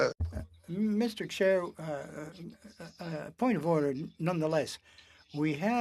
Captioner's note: speaking French